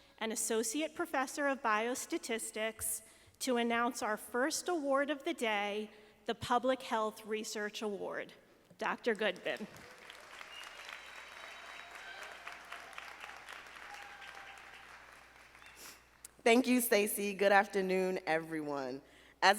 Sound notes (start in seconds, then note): 9.5 audience applauding